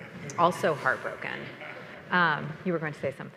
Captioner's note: attendees laughing